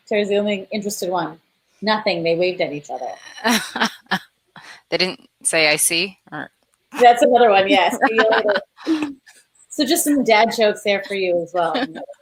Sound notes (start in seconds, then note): 3.3 laughing; 7.6 laughing